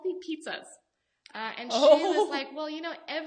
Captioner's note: laughs